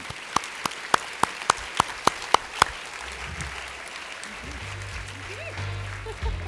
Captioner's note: applause